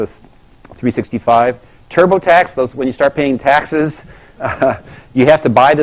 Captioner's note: laugh